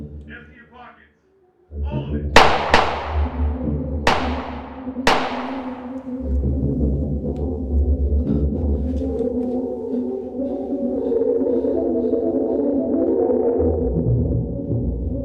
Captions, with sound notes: Empty your pockets. All of it! (guns firing) (Joe breathing shakily) (suspenseful music continues)